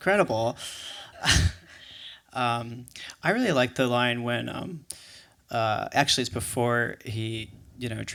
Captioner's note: scoffs